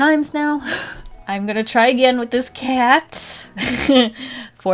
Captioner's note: laughs